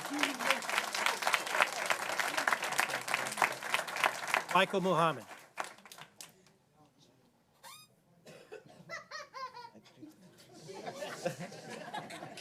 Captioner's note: applause